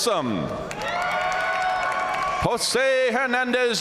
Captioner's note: audience cheering and applauding